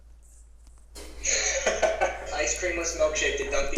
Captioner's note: laughing loudly